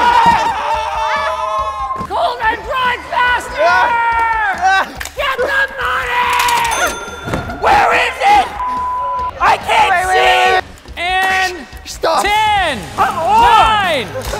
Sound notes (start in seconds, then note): 0.0 cheering; 7.0 beep